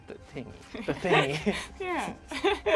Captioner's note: laughs